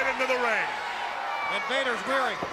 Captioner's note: crowd cheering